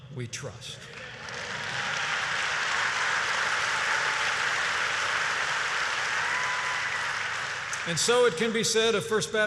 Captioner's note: applause